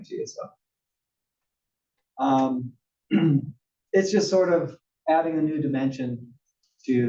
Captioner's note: cough